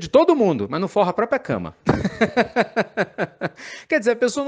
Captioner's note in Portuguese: Risos